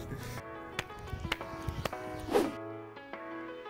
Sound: claps

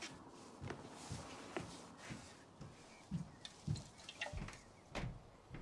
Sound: footsteps

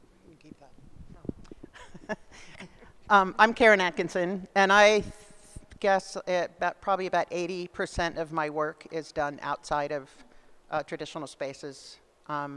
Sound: laughs

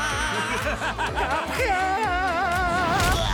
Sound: screams in pain; evil laughter; yells

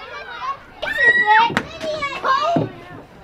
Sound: scream

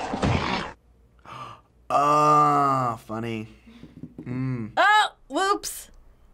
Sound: gasps

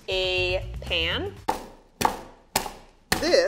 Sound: thumping

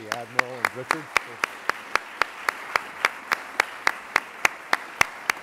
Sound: applause

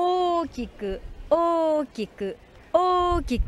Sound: speaking in foreign language

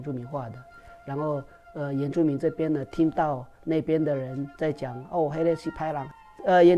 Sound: bad people in Hokkien

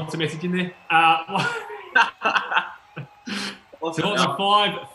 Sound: laughing

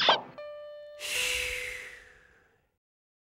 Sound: man sighing

